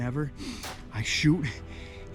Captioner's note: gunfire pops